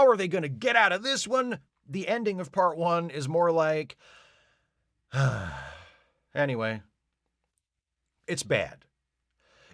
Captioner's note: sigh